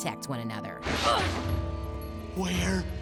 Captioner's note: grunting